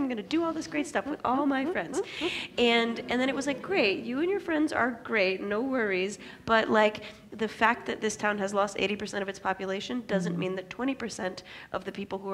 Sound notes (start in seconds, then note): 1.8 laughs